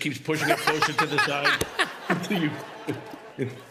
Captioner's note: laughter